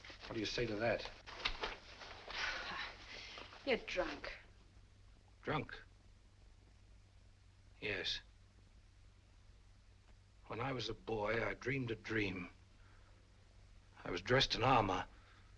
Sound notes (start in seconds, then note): none